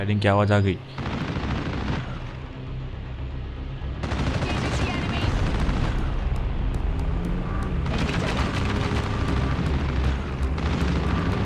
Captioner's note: Firing Shots